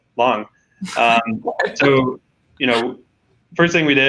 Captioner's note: laughs